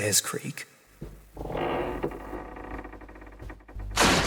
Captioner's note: creak